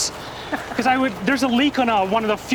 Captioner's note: laughs